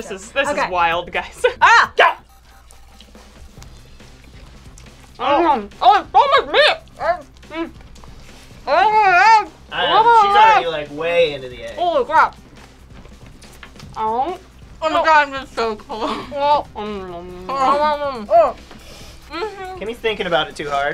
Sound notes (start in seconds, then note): 1.6 shouts; 2.6 everybody munching; 15.8 everybody munching